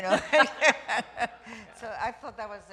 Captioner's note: laughter